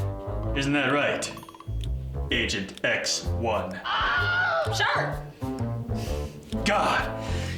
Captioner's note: man screams